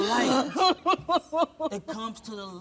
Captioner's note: sobbing